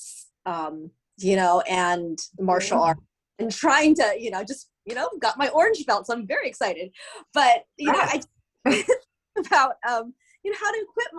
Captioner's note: laughter